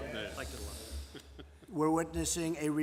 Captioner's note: laughter